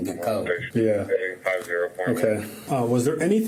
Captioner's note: radio chatter